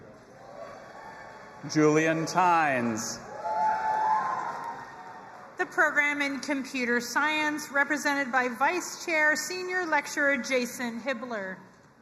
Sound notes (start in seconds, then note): 0.4 audience applauding and cheering